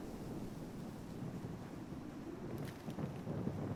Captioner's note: wind blowing